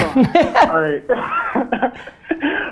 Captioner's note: Gary laughs; laughs